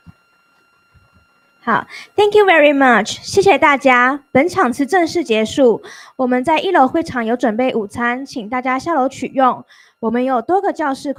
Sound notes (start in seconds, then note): 0.1 Speaking Chinese